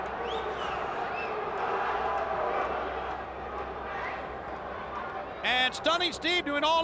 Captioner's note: crowd chatter